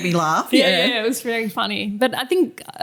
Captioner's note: laughter